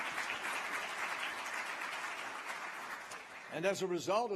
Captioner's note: applause